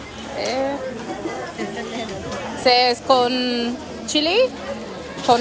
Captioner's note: speaking foreign language